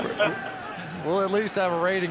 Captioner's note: laughs